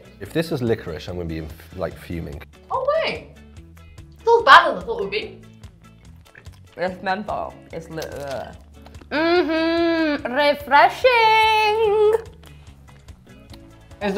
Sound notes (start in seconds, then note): 8.6 mouth sucking; 12.2 upbeat music